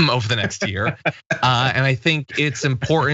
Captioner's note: laugh